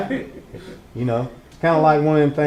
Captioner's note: laughter